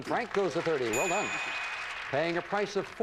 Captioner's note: audience applauding